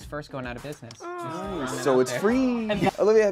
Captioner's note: overlapping chattering